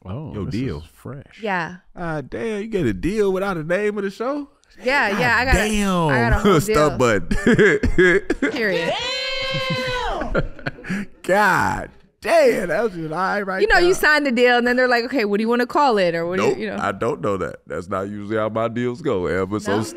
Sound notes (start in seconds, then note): 10.0 laughing